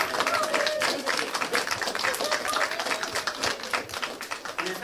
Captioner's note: audience applauding